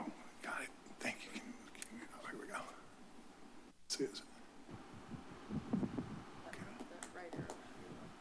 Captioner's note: indistinct chatter